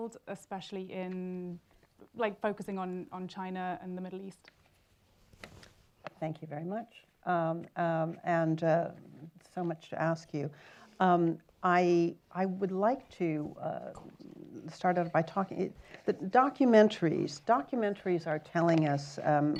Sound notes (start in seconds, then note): 5.3 silence